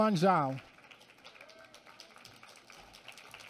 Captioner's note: applause